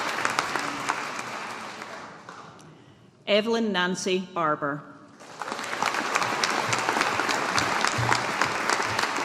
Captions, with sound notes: Evelyn Nancy Barbour. (AUDIENCE APPLAUDING)